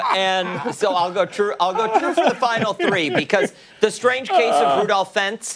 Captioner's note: laughter